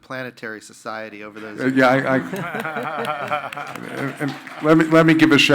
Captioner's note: panelists laughing